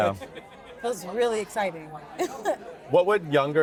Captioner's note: chuckles